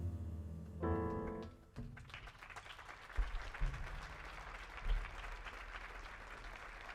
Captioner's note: upbeat jazz music ends; audience applauding